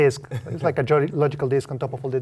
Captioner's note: laugh